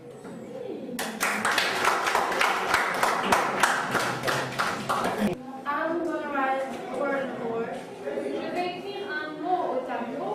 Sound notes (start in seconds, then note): 1.0 clapping